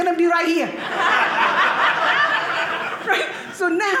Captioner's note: audience laughing